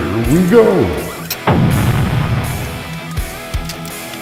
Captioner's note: explosion